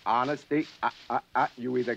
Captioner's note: chuckles